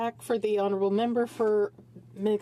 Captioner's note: speaking French